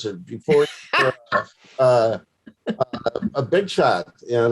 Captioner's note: laughs